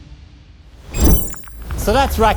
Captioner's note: electronic buzzing